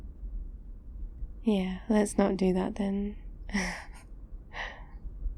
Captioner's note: laughs